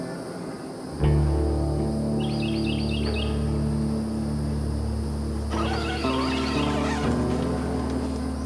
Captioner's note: bird chirping